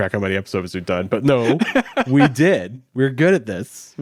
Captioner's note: laughs